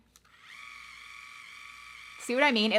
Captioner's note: curler whirring